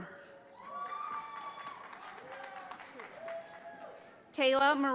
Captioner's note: audience applauding